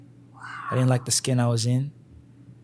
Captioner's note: whispers